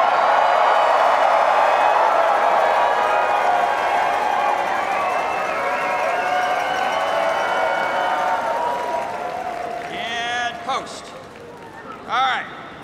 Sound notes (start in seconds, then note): 2.2 cheers and applause